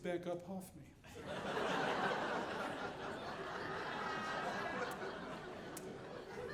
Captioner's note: audience laughing